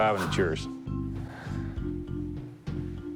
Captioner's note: sighs